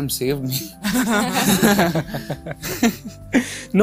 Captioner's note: giggles